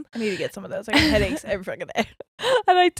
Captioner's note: chuckles